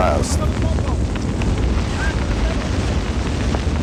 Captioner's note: fire whooshing